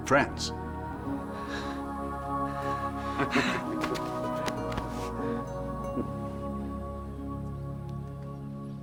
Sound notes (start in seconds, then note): 2.5 both men laughing; 3.9 upbeat music